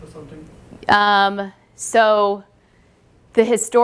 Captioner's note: pause